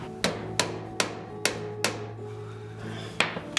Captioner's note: mallet tapping